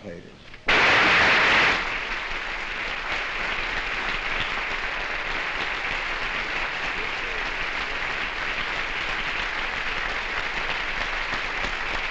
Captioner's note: applause